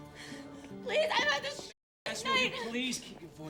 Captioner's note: breathing heavily